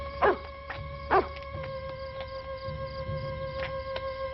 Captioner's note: dog barking